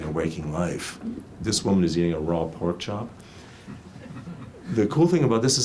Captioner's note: audience chuckles